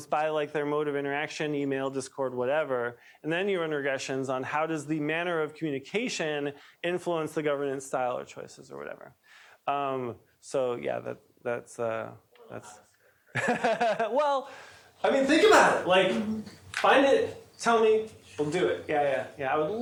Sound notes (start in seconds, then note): 13.3 laughs